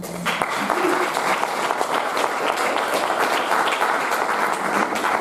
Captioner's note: audience applauding